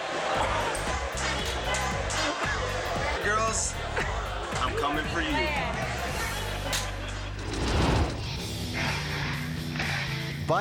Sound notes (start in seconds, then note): 5.8 audience laughing; 5.8 logo swooshing; 8.9 rock music